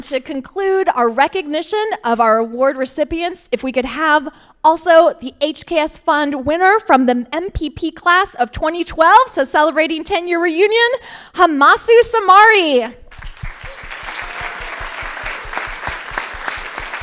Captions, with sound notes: And to conclude our recognition of our award recipients, if we could have also the HKS fund winner from the MPP class of 2012, so celebrating tenure reunion, Hamissou Samari. (crowd applauding)